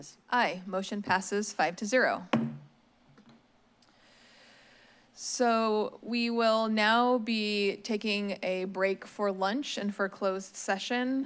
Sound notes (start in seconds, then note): 2.3 bangs gavel